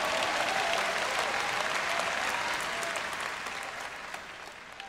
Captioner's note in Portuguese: plateia aplaudindo